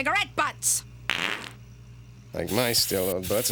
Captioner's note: breaking wind